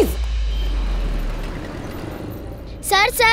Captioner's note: Traffic sound